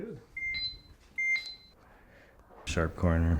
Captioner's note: laser beeping